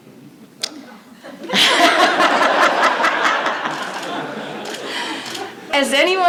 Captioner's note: laughter